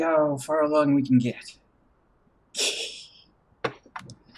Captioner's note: titters